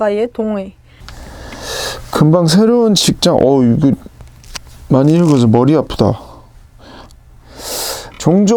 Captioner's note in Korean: 스읍